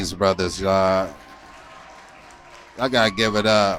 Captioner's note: applause